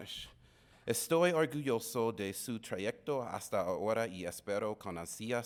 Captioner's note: speaking in Spanish